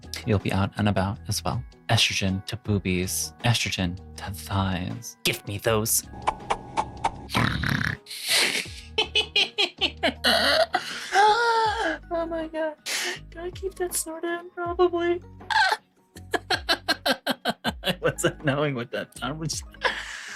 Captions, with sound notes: You'll be out and about as well. Estrogen to boobies, estrogen to thighs. Give me those. (laughing) Oh my God. Gotta keep that snort in probably. (laughing) I wasn't knowing what that sound was.